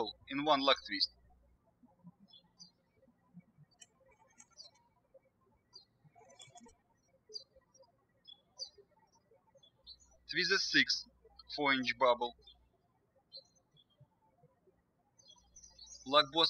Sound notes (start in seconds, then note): 2.5 birds chirping